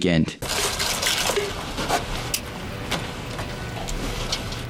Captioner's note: liquid pouring